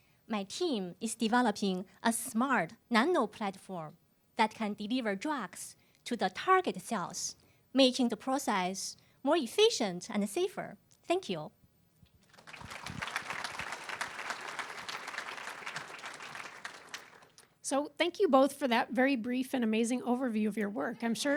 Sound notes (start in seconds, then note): 12.2 applause